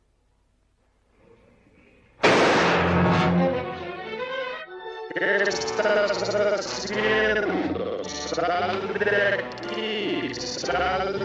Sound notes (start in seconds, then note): 2.2 gunshot